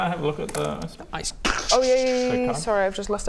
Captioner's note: krrrckshhhkshshkshk